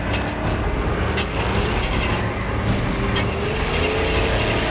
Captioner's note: car Ignition Grinding